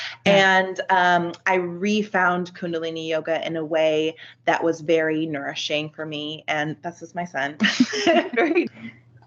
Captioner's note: giggles